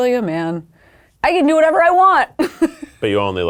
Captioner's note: laughs